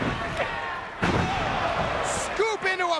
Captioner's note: bodies slamming